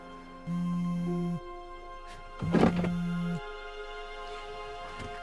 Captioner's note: cellphone vibrating